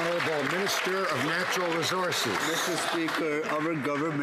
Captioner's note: some Applause